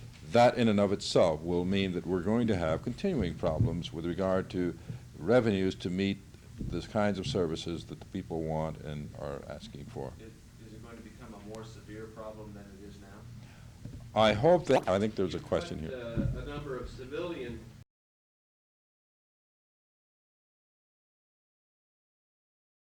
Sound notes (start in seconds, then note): 14.6 camera noise